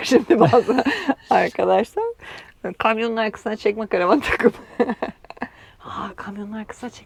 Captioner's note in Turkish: kahkaha; kahkaha